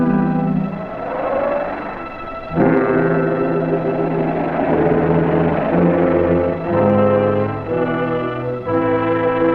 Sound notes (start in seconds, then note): 1.1 engine rumbling; 5.6 suspenseful music